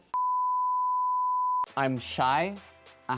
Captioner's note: tone beeping